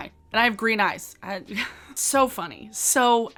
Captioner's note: chuckles